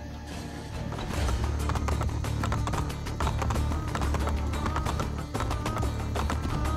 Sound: horse sounds

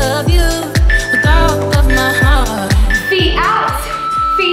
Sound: workout timer beeping

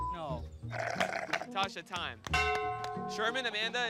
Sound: slurping

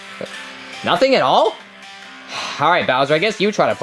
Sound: sighing

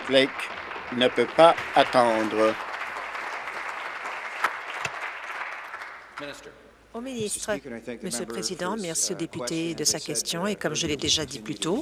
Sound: applause

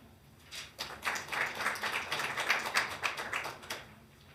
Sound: hands clapping

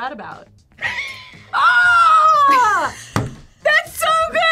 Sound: laughs

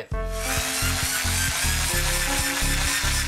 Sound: whirring

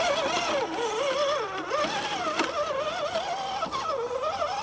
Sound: engine sounds

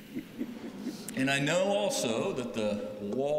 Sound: laughter

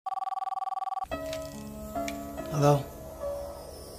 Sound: phone ringing

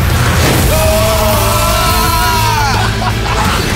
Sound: yelling

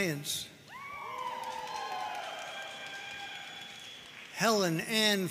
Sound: audience cheering and applauding

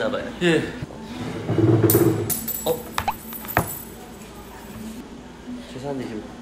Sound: drops coins

